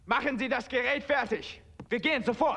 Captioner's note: speaking german